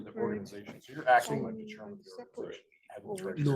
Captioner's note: speaking faintly